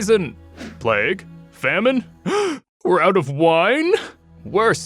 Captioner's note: gasps